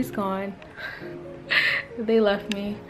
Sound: laughing

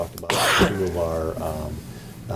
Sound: coughing

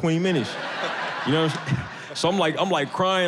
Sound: audience laughs

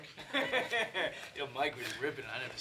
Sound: laughing

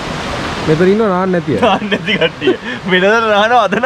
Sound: laughing

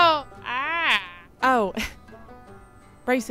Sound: laughs

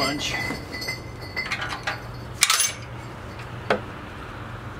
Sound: mechanical noises

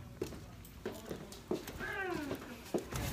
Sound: footsteps

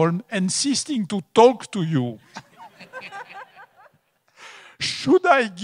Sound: audience laughs

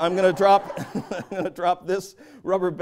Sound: laughter

